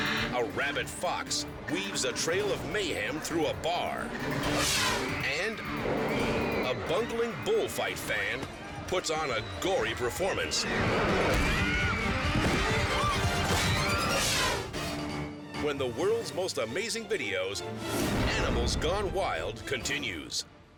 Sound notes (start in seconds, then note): 11.4 blow thuds; 12.4 spectators screaming